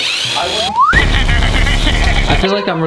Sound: laughing

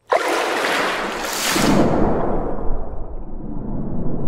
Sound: loud splashing noises

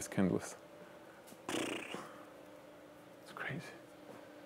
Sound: sighing

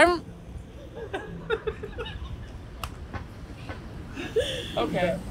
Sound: more laughter

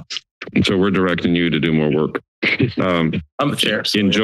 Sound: laughs

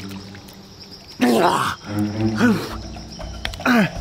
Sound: gasping

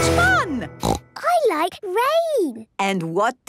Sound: snorting

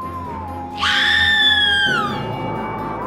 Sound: scream

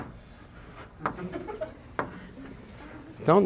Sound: laughter

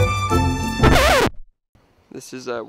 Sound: record scratch

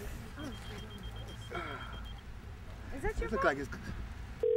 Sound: groans; beeping

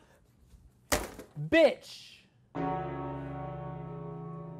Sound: bell tolls

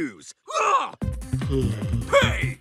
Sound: yawning

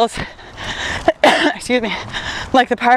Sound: coughs

